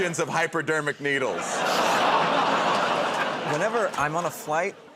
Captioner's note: laughter